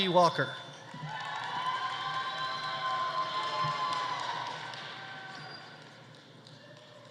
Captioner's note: audience applauding; audience cheering